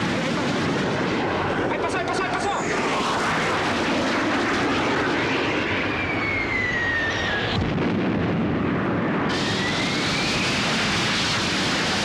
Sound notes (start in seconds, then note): 1.7 man speaking in foreign language